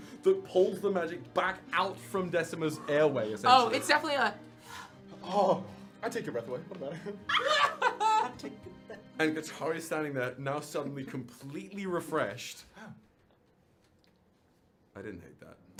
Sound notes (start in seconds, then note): 4.6 gasp; 6.8 laughter